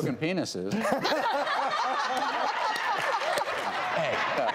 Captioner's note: everyone laughs